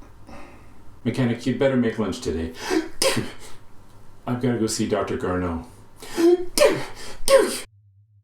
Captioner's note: ha-gish!